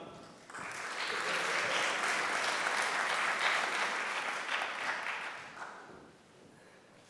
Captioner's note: applause